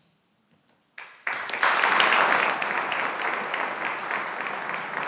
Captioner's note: audience applauding